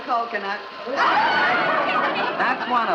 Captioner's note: laughter